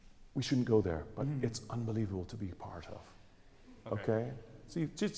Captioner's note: gasp